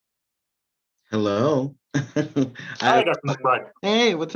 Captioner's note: chuckles